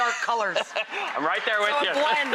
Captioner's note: laughter